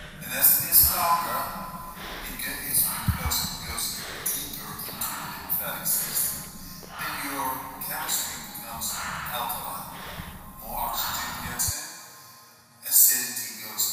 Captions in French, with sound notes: Si c’est plus long [respiration profonde]